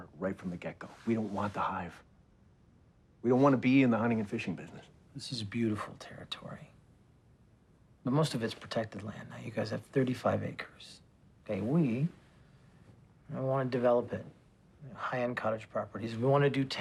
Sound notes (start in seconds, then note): none